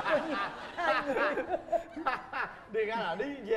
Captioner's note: laughing